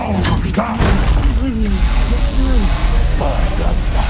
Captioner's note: Rubika groans weakly